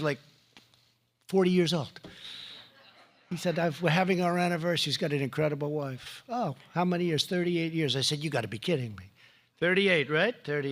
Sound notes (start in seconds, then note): 2.7 laughter